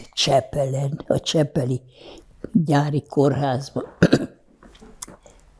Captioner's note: clears throat